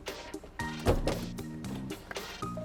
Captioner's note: second row seats thud